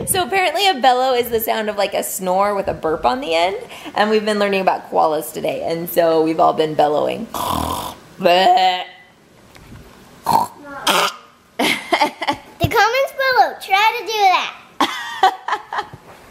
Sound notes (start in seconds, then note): 7.3 snorts then imitates burp; 10.8 snorts then imitates burp